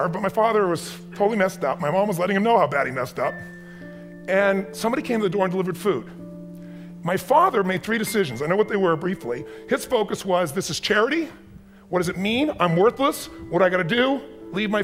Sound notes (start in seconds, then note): none